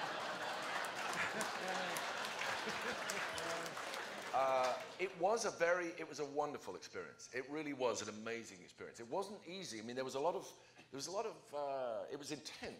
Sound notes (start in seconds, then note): 0.0 laughter